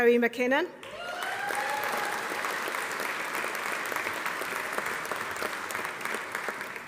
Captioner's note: audience applauding; audience cheering